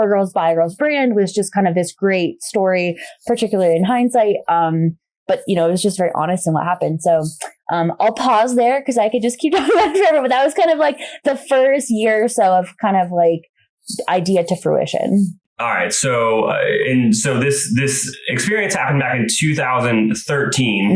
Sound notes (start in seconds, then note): 10.9 laughs